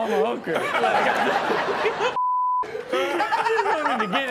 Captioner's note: all laughing